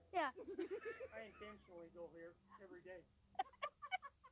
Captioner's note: laughing